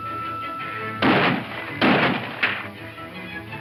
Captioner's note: gunshots